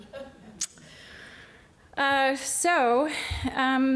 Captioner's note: laughter